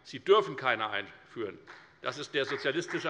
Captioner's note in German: Beifall bei der FDP und bei Abgeordneten der CDU